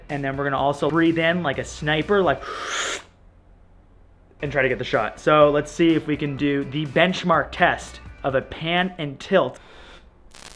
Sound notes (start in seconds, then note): 2.4 inhales deeply; 9.6 inhales deeply